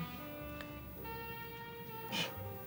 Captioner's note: scoffs